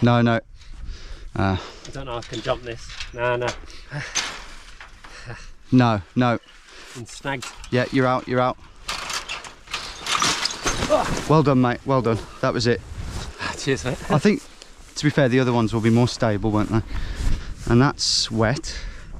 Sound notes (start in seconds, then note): 8.6 thudding; 9.3 wire clanking